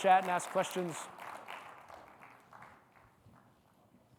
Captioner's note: audience clapping continues